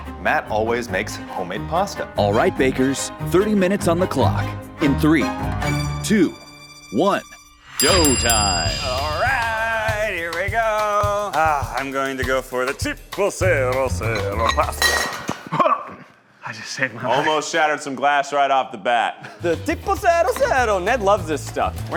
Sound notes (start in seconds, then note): 7.7 bell rings; 14.4 lid clatters